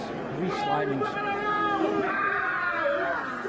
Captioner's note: speaking maori